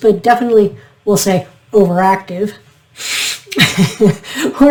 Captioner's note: sniff